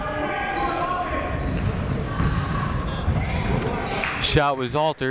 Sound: people shouting in the crowd

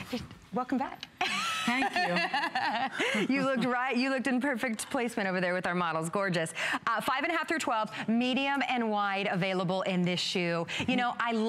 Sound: laughter; laughter

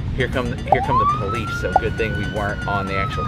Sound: siren

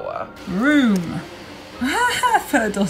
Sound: laughs

